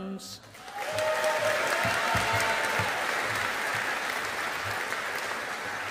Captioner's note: audience applauding